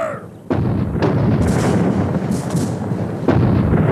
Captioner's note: booming